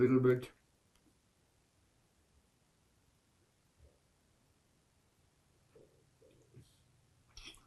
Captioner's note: pauses 8 seconds